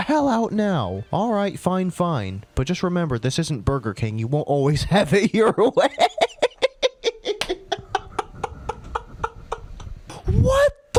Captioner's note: starts dying of laughter